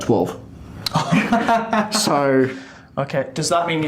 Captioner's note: laughs